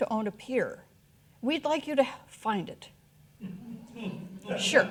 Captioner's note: audience laughing